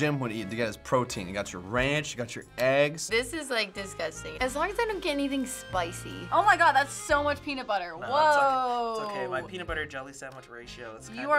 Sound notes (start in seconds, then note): none